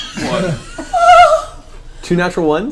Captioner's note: all laugh